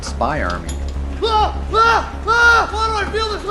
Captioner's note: screams